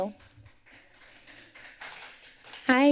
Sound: applause

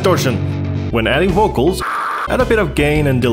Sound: screeches

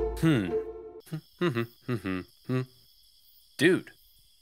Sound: humming

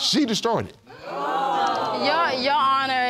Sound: audience exclaims

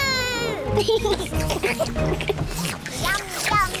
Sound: all slurp

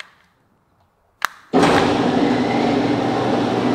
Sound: click; garage door closes

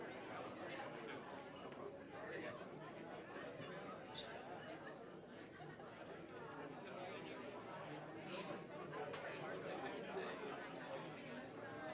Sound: general chatter

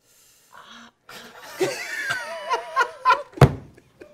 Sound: laughter

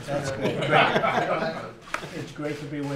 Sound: laughter

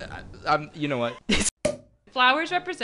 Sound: pop Sound

